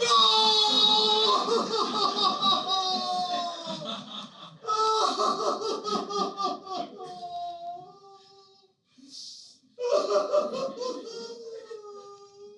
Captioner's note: crying